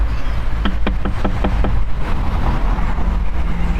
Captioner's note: door knocking